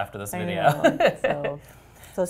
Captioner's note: laugh